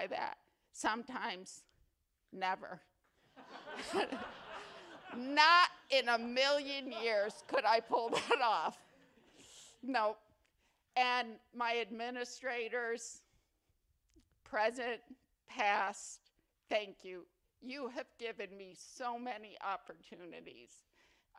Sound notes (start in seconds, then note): 3.2 laughter; 7.8 laughter continues